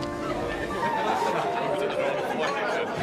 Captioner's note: people chattering